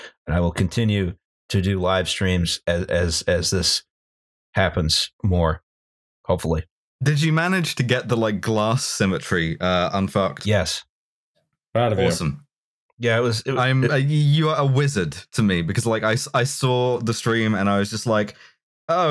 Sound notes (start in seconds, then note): none